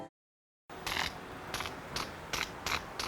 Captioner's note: buzzing sparks